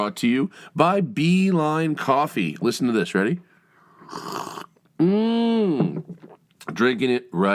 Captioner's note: slurps sound